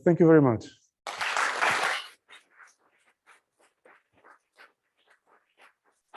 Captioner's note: applause